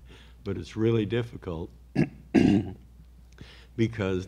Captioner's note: clears throat